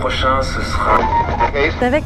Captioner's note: radio noise